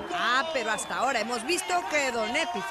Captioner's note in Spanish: aplausos